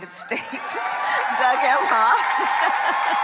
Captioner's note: crowd cheering